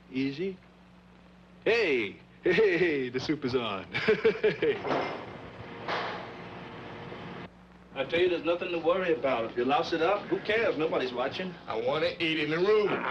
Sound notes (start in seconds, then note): 3.9 Sam laughing